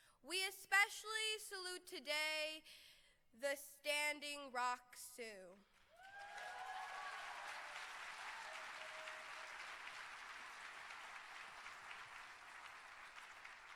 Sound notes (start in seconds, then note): 5.4 cheering